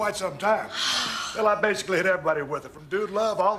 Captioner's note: Nikki sighing